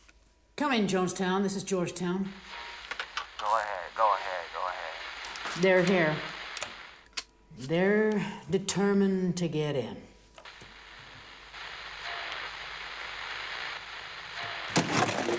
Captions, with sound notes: - Come in Jonestown this is Georgetown. - [Voiceover] Go ahead, go ahead, go ahead. - They're here. They're determined to get in. (radio static)